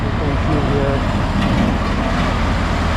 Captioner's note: drowned in construction noise